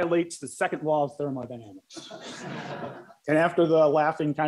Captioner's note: laughter